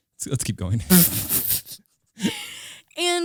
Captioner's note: both laughing